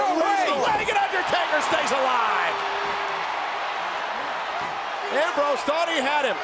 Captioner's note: crowd cheering